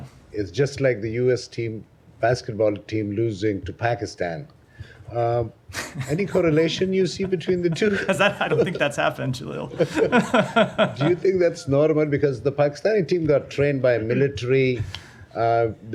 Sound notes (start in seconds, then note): 5.7 laughter